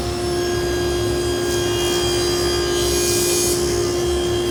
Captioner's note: saw buzzing